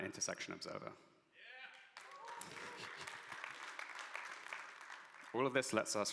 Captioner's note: audience applauds